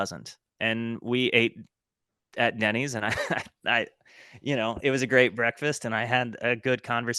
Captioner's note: chuckle